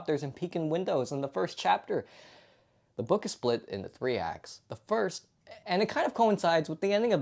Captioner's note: breath